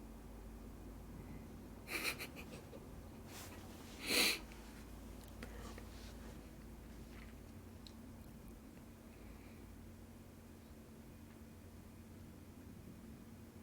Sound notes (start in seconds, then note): 1.8 laughter